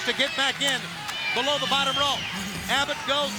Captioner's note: crowd cheering